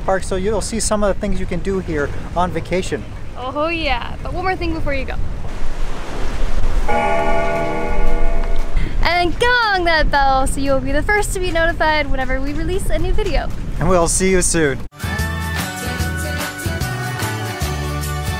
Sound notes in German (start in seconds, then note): 6.9 Glockenläuten